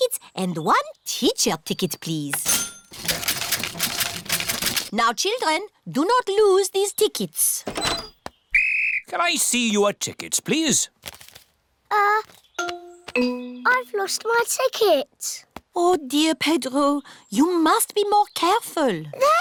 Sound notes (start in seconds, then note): 2.4 cash register dings; 8.5 blows whistle